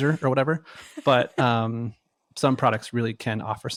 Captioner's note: laughs